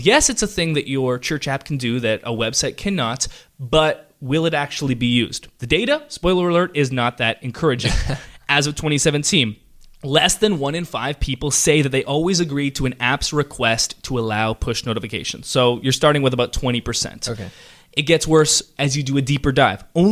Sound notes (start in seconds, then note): 7.8 chuckles